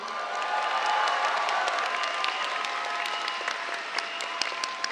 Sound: cheers, applause

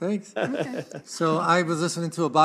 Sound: laughs

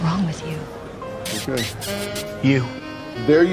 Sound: bully makes kissy noises

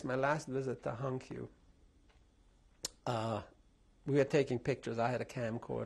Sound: pauses for 3 seconds

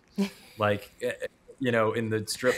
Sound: chuckling

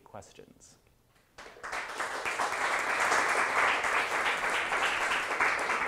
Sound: applause

